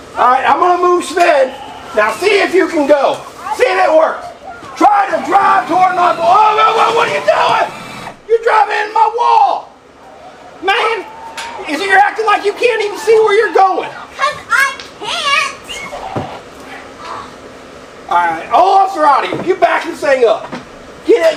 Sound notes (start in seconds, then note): 4.3 screaming; 10.5 exclaims